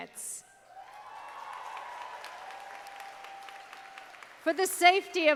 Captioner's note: audience applauding